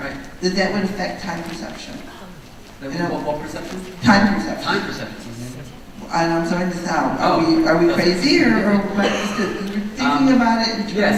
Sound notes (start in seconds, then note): 3.7 voiceover; 6.2 voiceover